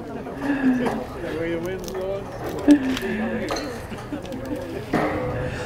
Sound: indistinct chatter

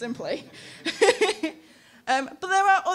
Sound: laughing

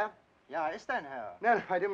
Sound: speaking German

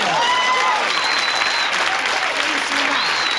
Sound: audience cheers and applauds

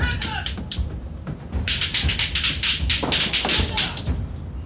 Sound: gunfire

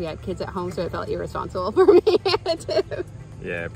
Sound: laughs

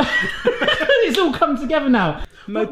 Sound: both laughing

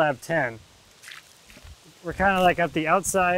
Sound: water splashes

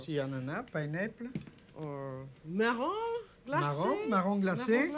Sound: speaking French

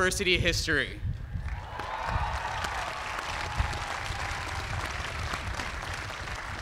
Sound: cheers and applause

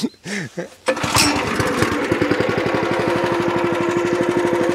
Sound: engine starts

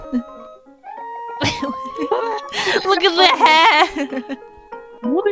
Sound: laughs

